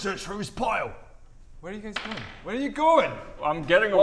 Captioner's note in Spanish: Tirada de dados